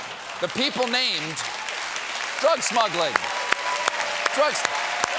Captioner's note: applause